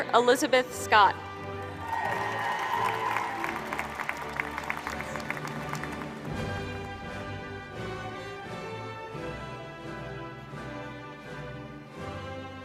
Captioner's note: applause